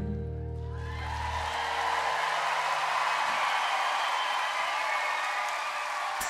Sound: audience applauds

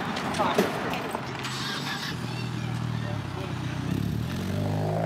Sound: car starts; engine revs

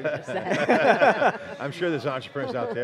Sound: laughs

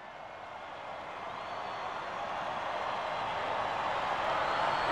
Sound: audience cheers

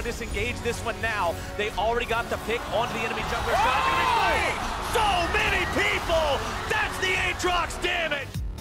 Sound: intense shoutcasting

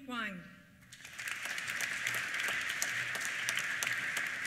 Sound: applause

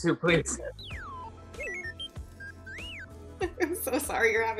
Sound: beeps

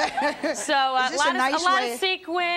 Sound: people laugh

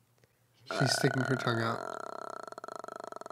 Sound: throat noises

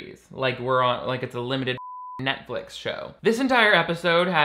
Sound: beeps

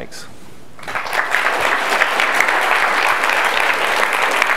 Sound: audience applauds

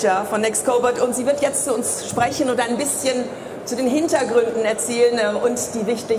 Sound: speaking in foreign language

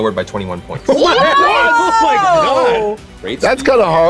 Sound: yelling

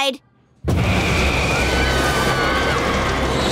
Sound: screaming

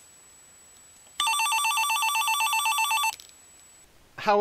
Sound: ringing phone sound effect

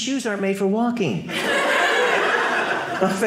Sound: audience laughing

